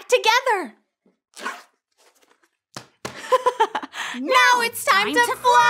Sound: bag zips; giggles

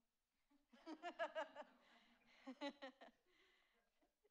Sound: laughs

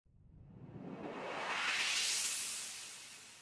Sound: slow whoosh sound effect

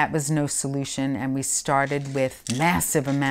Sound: pills rattling

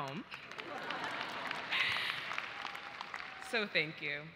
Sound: audience laughs and applauds

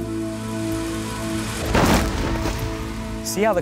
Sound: car crashing

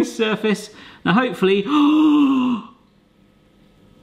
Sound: gasps

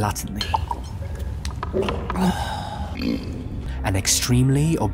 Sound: slurps, burps and oinks

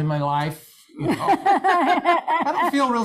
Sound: laughs

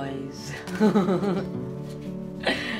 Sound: laughs

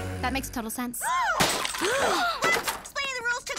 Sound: gasps; clattering

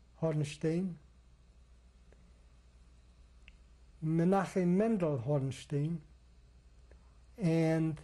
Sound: pauses for 3 seconds

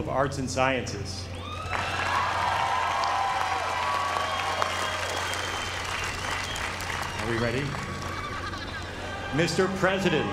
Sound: applause

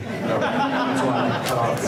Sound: laughing

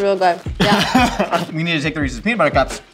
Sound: laughing

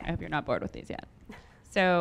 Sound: stifles a laugh

